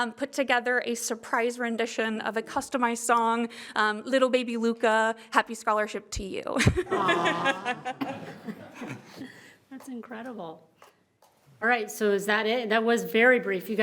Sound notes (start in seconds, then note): 6.8 everyone laughs